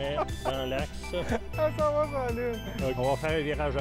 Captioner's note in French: rires